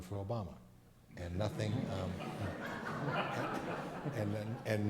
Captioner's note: crowd laughs